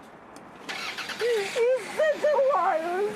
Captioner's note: car starts; crying